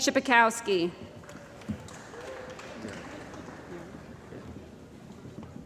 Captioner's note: applause